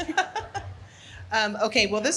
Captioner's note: audience laughing